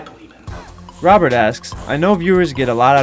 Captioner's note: voiceover